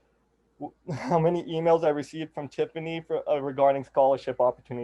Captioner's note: chuckles